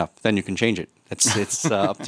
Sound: laughs

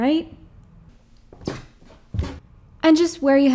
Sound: stairs creaking

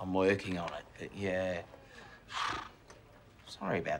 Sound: sighs

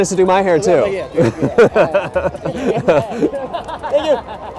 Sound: laughing

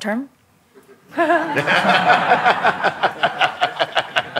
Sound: laughter

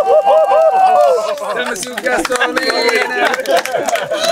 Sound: group cheering

